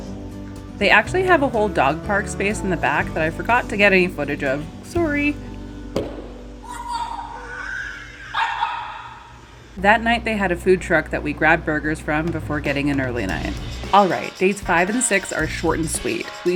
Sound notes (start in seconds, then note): 6.6 laughing and more boofs